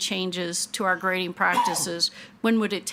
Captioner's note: attendee coughing